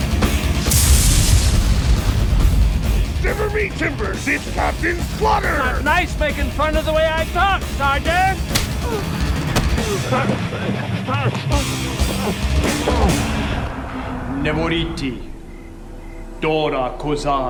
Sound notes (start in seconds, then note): 0.5 electricity crackling; 8.6 grunting; 13.8 speaking foreign language